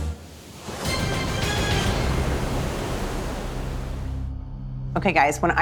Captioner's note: waves crashing; tense music